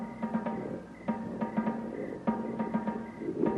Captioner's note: growling